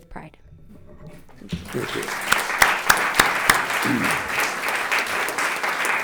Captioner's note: audience applauding